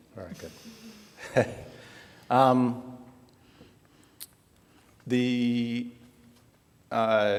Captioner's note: laughter